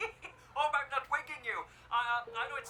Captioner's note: laughs